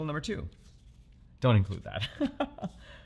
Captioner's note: chuckles